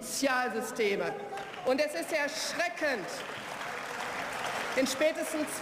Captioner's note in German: Beifall